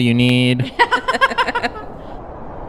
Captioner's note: laugh